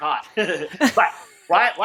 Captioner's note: chuckling